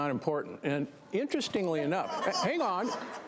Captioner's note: audience laughter